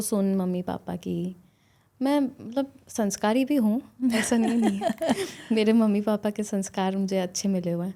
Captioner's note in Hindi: हंसी